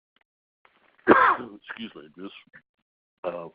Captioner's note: coughs